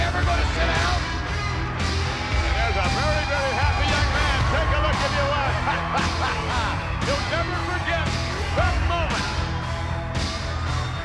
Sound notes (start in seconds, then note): 6.9 laughs